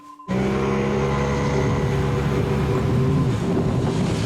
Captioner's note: lifeboat vrooming